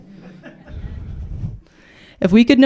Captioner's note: laughter